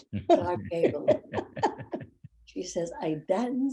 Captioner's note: laughing